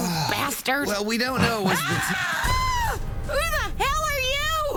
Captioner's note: Pam screaming